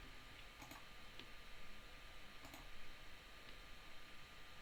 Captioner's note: mouse clicking